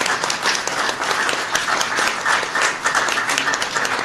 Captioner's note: applause